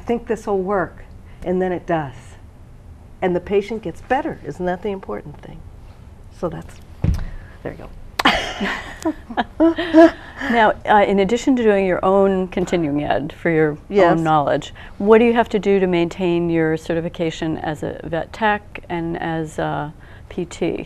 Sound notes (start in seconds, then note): 8.2 laugh